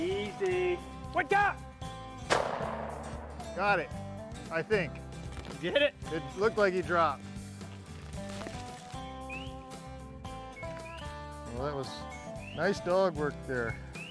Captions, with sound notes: - Look out! (gun shot) Got it, I think. - Did you get it? - It looked like he dropped. - Well it was nice dollar work there.